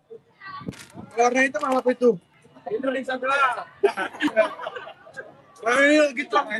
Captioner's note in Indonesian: tertawa